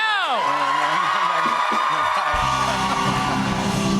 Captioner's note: cheers and applause